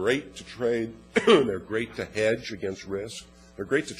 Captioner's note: cough